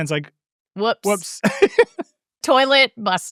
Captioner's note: laughs